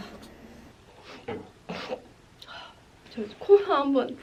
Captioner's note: sniff, Sniff